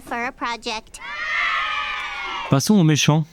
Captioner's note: sound of children rather excited by the good news